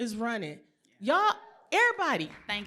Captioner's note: applause